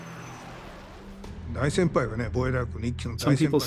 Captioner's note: speaking japanese